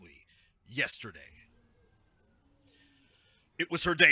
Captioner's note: outdoor park sounds